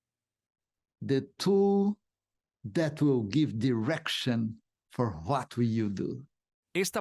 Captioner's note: Hablando idioma extranjero